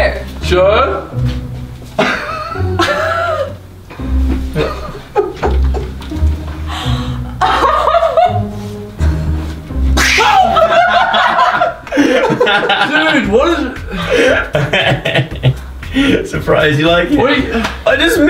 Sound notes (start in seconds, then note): 10.3 gasp